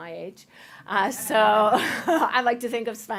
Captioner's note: laughter